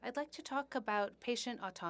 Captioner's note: speaking French